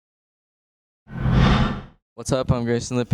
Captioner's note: whoosh